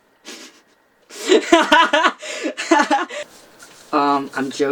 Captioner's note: laughs